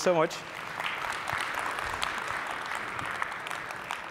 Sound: applause

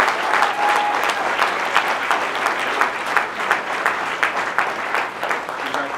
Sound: applause

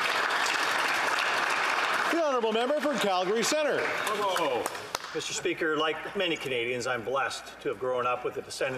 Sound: applause

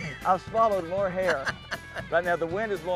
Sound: laughing

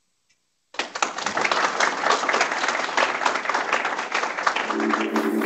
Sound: applause

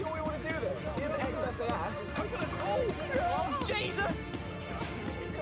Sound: chatter

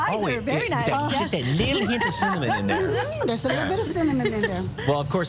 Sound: laughter

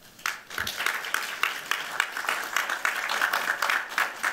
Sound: applause

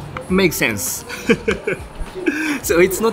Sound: chuckles

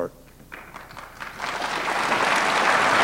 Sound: applause

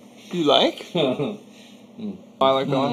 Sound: he chuckles

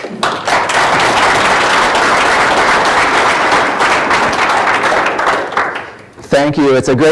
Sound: applause

